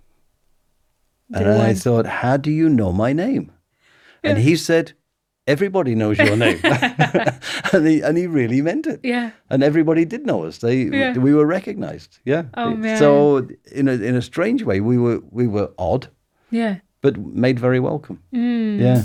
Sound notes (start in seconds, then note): 6.2 laughing